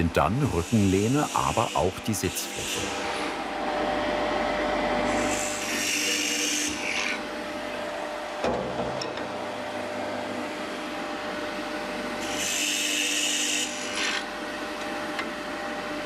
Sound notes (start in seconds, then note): 5.6 loud engine noise